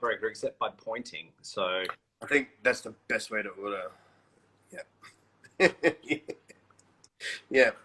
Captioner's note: laughs